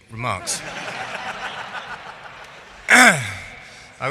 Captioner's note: laughing